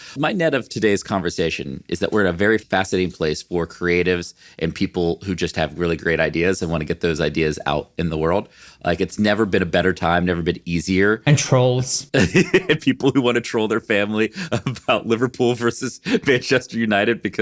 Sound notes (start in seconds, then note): 12.1 chuckling